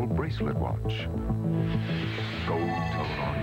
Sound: whoosh

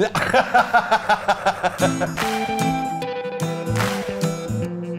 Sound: laughs

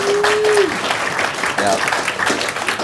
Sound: applause

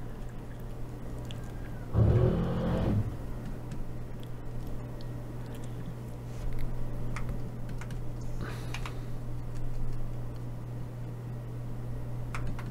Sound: typing

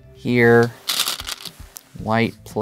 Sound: stones rattling

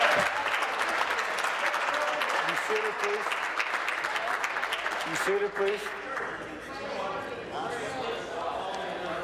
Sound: applause

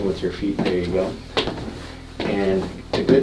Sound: marching

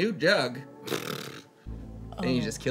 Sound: X blows raspberry

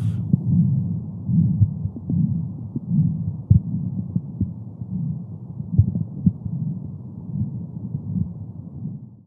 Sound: heartbeat sounds

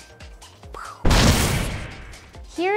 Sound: explosion sound

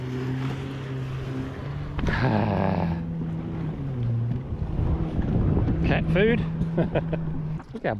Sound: laughs

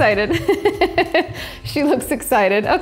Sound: laughing loudly

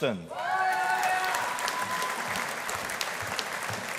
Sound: audience applauding

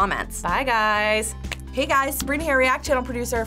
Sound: snaps

